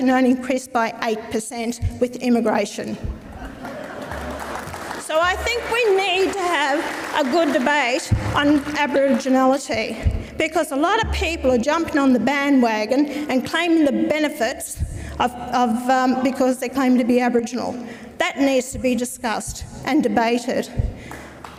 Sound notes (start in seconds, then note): 3.2 audience laughs; 3.5 audience applauds; 21.1 audience applauds